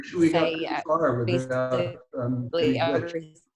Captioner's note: murmuring